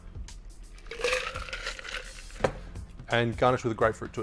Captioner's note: ice clinks